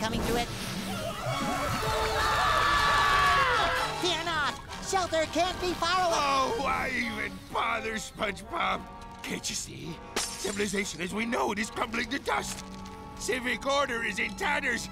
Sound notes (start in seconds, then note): 0.8 screaming